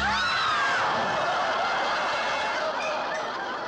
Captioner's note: audience shrieks